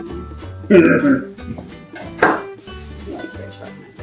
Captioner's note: totally weird laugh